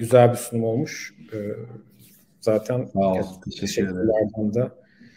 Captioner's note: Turkish speech